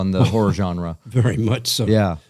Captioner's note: laughter